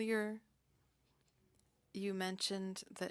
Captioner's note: speaking French